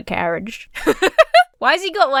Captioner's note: Emma laughs